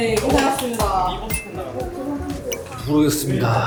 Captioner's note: stomp Stomp